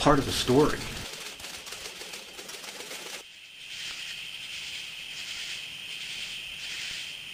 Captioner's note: sound of crickets continues in the background